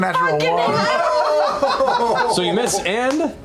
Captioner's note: laughter